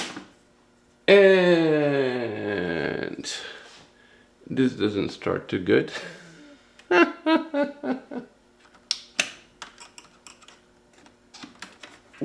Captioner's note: laughter